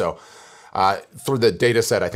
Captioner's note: deep breath